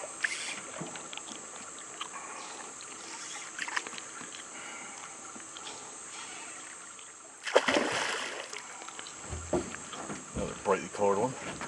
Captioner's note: fish splashing